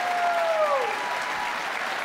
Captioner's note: applause